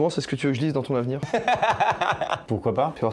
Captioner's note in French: rire